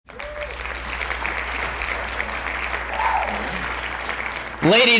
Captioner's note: clapping